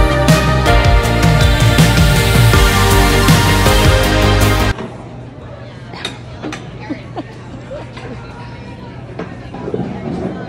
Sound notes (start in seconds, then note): 0.0 upbeat music; 6.8 chuckling